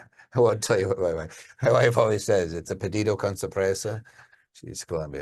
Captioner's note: speaking Spanish